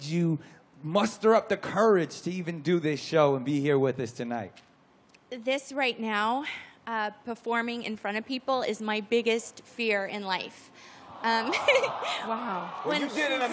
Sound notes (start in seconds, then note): 11.0 crowd aws